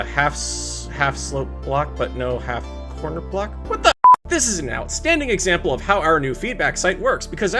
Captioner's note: beep